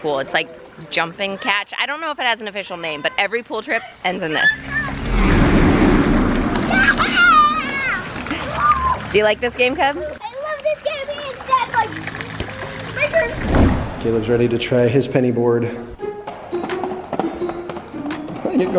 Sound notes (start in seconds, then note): 4.4 intense whooshing; 8.3 cheering; 15.9 cheerful music